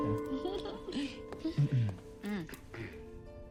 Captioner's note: Sam & Riley clear throat